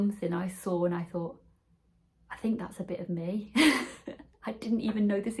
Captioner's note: laughs